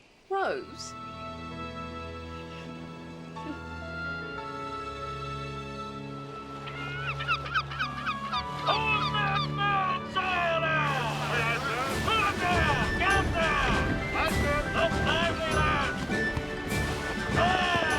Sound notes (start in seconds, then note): 6.4 seagull calling; 11.4 men shouting; 12.9 adventurous music